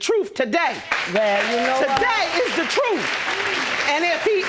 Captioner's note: audience applauds